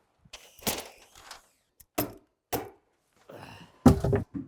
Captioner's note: tool knocking